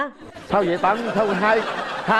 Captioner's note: laughing